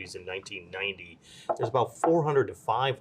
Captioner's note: cup tapping